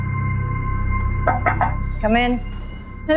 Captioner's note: knocking on the door